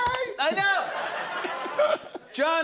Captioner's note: laughter